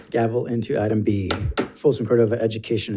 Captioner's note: gavel bangs